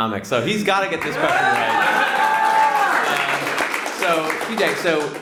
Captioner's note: audience applauds